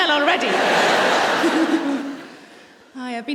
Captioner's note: laughter